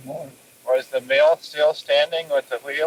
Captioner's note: cassette audio